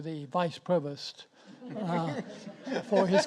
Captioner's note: audience laughs